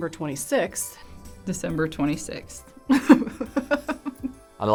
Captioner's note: laughs